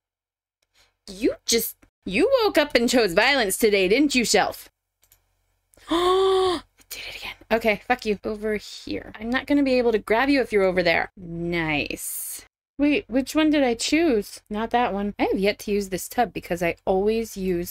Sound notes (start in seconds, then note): 5.8 gasp